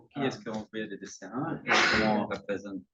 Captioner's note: speaking french